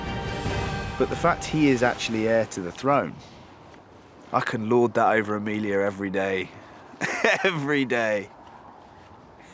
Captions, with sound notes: But the fact he is actually heir to the throne, I can lord that over Emilia every day. Every day. *laughs*